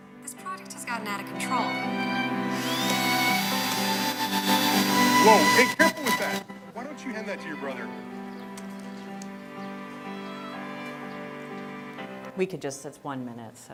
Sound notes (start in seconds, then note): 1.6 drill buzzing